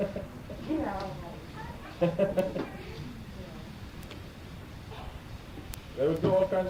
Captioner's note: laughter